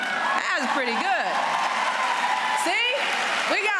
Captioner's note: applause